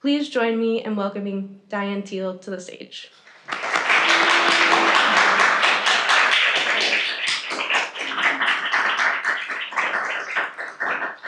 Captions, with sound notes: Please join me in welcoming Diane Thiel to the stage. (audience applauding)